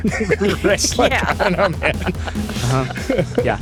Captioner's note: all laughing